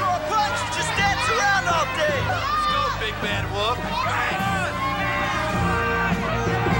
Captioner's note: people cheering; upbeat music